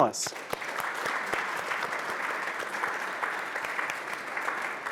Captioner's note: audience applauding